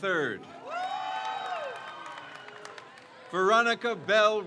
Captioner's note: crowd cheers